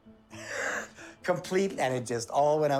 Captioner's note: laughing